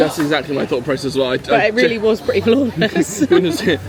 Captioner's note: laughing